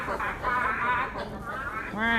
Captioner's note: laughing uncontrollably